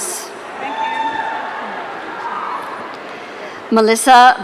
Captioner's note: audience cheering